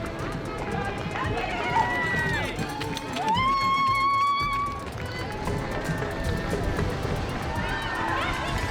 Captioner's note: crowd cheering